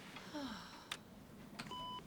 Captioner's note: sighs